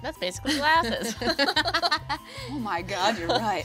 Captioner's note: women laughing